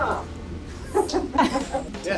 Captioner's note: both laughing